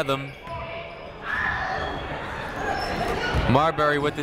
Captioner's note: people shouting in the crowd